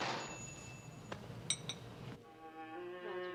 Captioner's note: door cIoses, door bell jingles